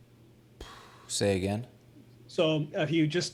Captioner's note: sighs